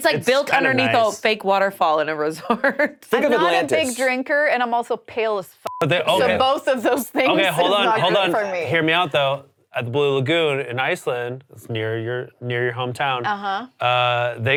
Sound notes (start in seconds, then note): 5.6 beep